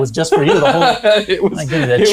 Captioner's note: laughs